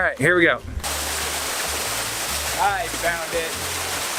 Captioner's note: water splashing